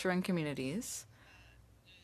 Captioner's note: speaking French